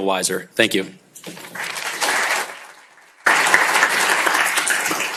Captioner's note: applause